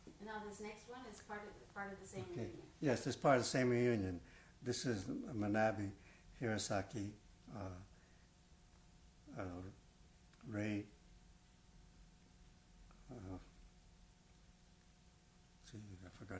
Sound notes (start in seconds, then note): 7.5 pauses for 3 seconds